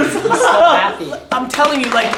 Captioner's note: laughter